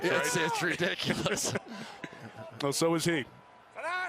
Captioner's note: laughing